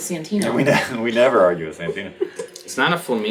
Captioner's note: laughs